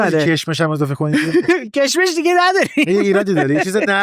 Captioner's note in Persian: خنده